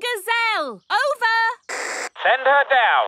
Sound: walkie-talkie crackles

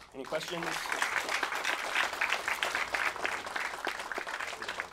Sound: audience applauds

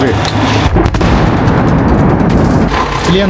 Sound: sound of Russian GBU explosion

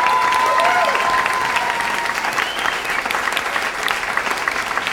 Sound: audience applauds

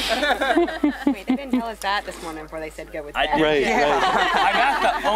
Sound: laughter

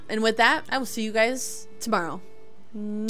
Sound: kiss

